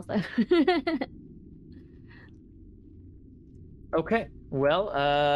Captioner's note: laughing